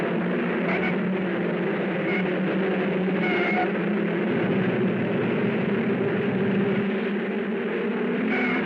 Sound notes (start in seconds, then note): 0.7 tires squealing; 5.1 cars thrumming